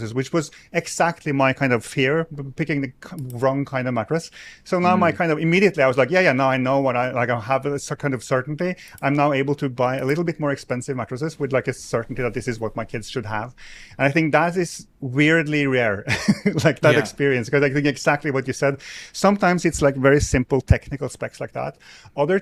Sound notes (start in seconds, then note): 16.1 chuckles